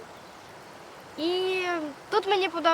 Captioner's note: birds singing